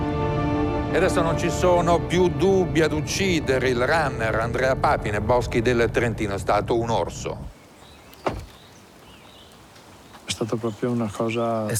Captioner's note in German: italienisch